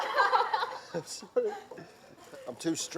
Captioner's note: laughter